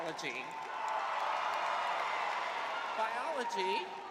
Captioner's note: crowd cheering